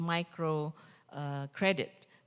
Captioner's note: none